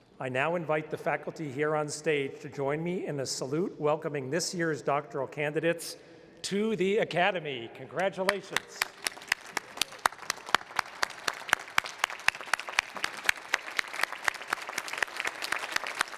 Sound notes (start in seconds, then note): 8.0 applause